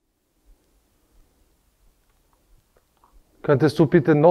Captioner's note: silence in the background